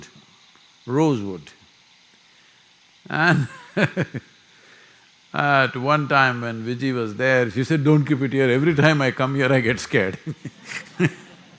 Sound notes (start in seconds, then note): 3.1 laughs; 10.0 laughter